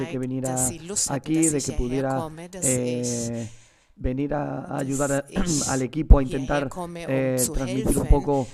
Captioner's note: coughs